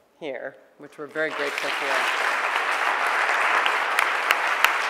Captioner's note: audience clapping